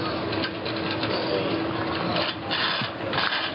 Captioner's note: metallic sounds